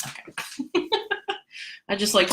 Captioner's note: laughs